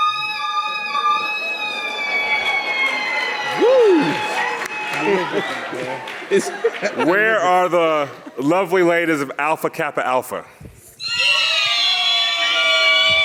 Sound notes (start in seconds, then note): 1.4 audience clapping